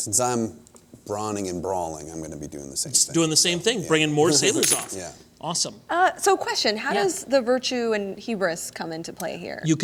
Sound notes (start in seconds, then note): 5.3 laughs